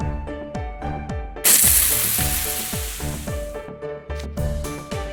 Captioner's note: splash